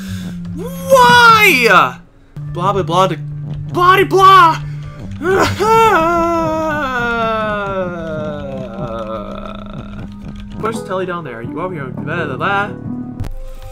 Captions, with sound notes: WHYYYYY? Blah-blah-blah-de, BLAH-DE-BLAH! *distressed whine* Push TELE down there, you go over here, and, weh la lah?